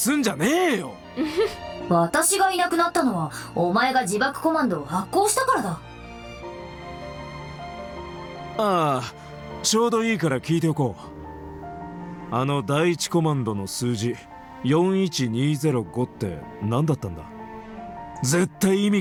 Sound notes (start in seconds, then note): 1.2 chuckles